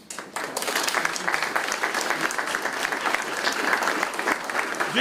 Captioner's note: applause